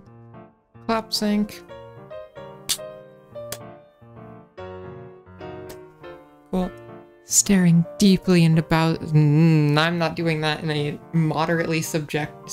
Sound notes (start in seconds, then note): 7.2 asmr-y voice